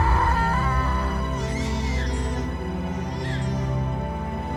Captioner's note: baby crying